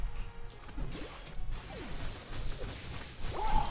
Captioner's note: fighting sounds